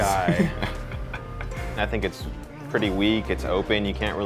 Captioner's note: laughs